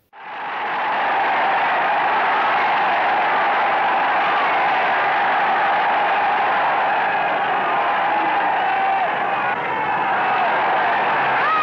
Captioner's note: cheers